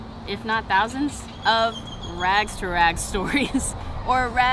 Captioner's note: laughs